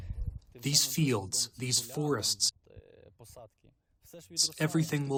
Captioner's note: through translator